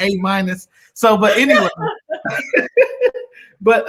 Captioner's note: laughter